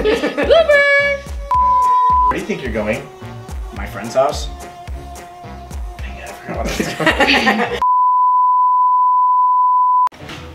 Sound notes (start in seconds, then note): 1.5 beep; 6.5 both laughing; 7.8 beep